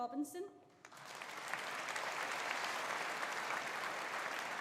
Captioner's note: audience applauding